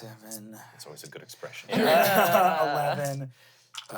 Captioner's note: everyone laughs